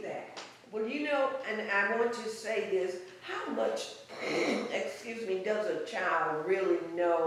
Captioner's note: clears throat